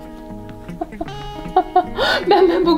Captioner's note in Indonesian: tertawa